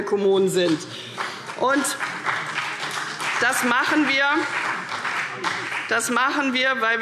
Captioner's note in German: Vereinzelter Beifall CDU und BÜNDNIS 90/DIE GRÜNEN